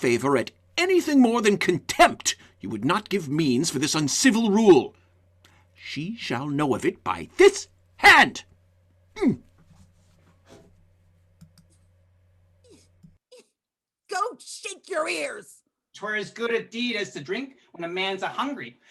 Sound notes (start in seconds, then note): 9.2 pointed grunt; 12.6 mocks Malvolio's grunt